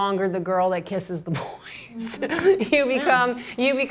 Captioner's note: laughter